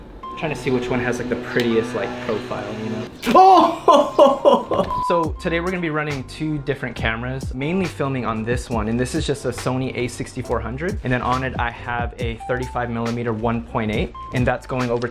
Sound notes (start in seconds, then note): 4.8 beep